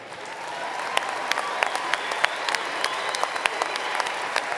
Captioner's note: applause